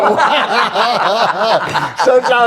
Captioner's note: laughs